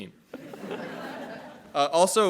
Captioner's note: all laughing